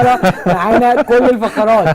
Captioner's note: laughs!